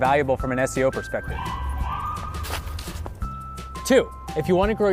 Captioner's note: alarm blaring